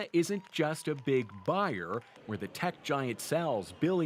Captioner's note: cheers and Applause